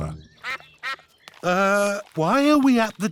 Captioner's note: sucks quacking